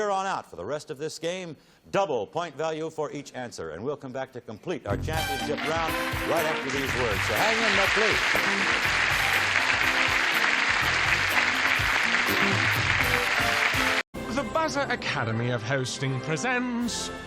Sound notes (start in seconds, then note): 9.3 applause